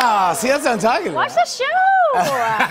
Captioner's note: laughter